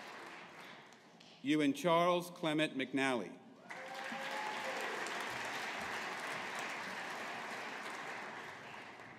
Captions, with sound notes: Ewan Charles Clement McNally. (AUDIENCE APPLAUDING)